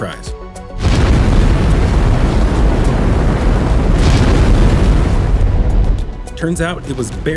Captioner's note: kaBoOoOm